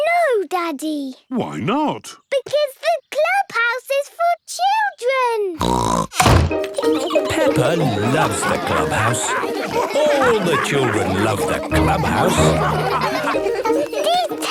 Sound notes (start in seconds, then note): 5.6 snorts; 12.8 all laughing